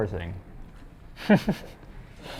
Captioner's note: chuckles